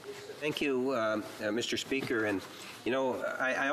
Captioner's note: speaking French